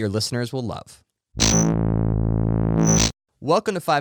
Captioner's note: electric buzzing